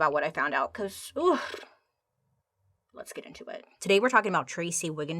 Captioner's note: lips burbling